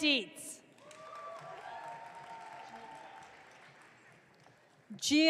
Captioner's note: audience cheering